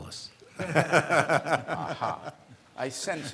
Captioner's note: laughs